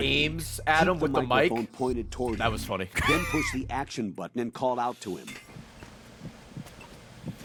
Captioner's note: laughs